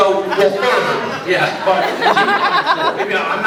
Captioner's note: laughs